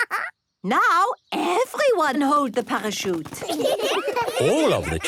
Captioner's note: laughing; trumpeting; laughter